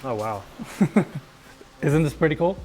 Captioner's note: chuckles